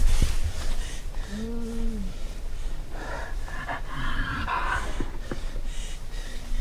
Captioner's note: Jake breathing heavily; animal grunting